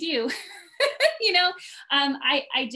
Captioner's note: laughs